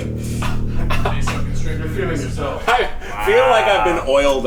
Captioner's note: distant chattering